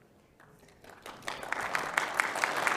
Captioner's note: applause